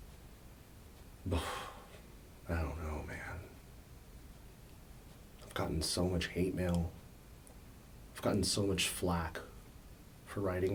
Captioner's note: sighs